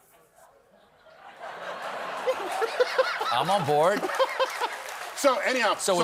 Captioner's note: laughter